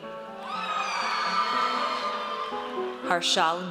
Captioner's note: audience cheers